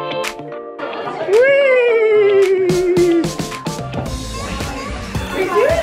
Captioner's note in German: Imitiert Pferdewieher